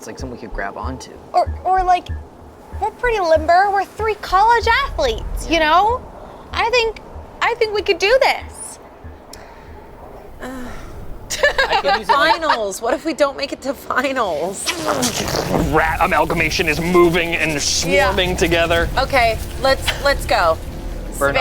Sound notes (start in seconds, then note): 10.4 groans; 11.2 laughs; 14.6 gargles